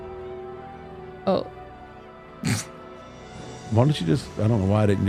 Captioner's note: chuckles